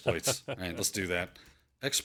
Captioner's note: laughs